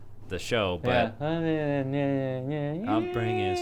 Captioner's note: hums